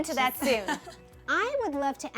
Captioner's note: laughter